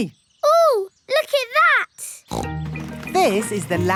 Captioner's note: snorts